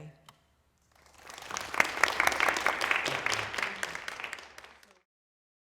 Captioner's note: applause